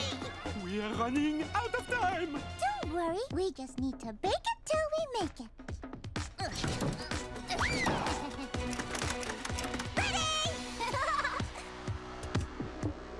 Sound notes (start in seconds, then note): 5.8 grunting; 7.9 chuckling; 10.7 laughing; 13.0 rhythmic music